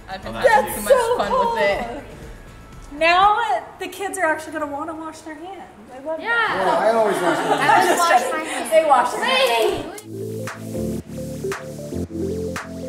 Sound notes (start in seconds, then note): 6.2 kids chattering; 9.8 chill music